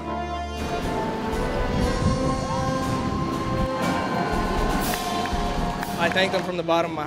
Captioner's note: crowd cheers